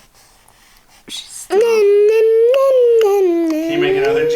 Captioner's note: babbling